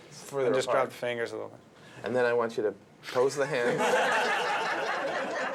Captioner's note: all Laughing